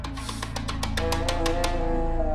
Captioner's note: knocking